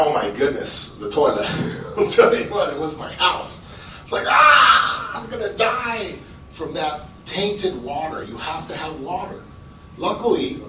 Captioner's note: gagging noise